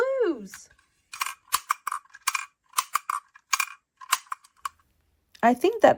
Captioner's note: metal clanks rhythmically